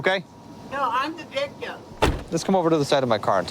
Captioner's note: car door closes